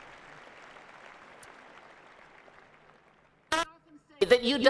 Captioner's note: applause